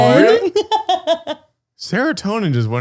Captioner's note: laughing